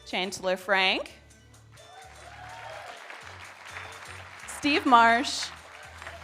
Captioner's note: audience applauding